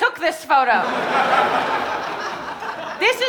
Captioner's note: audience laughing